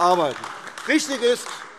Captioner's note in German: Beifall AfD